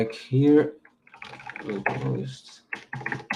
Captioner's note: keyboard clacking